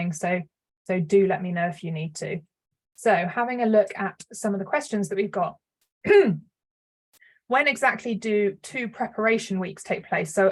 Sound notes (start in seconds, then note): 6.0 clears throat